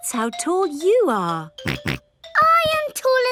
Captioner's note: snorts